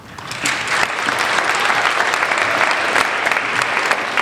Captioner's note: applauding